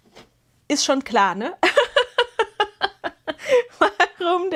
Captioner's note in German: gelächter